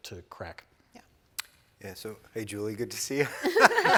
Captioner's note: all laughing